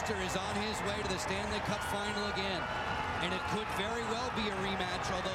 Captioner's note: cheers and applause